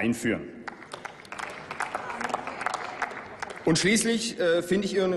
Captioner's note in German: Applaus